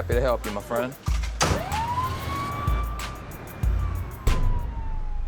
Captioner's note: siren wailing